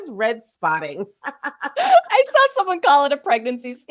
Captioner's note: laughing